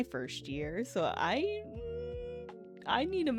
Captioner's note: uncertain humming